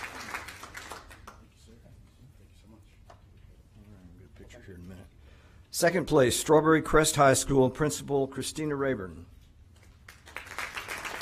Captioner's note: applause